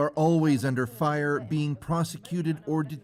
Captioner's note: speaking alternate language